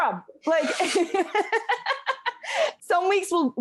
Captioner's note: laughing